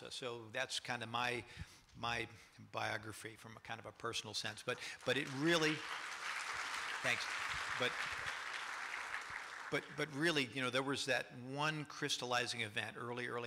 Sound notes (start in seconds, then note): 4.8 applause